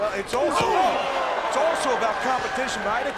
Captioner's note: Cole exclaims